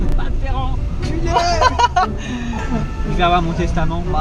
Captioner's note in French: rire